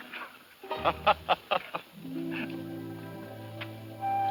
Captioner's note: laughs